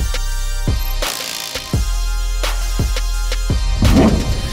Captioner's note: drill whirs